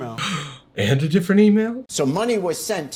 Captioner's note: gasps